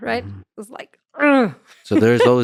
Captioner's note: groans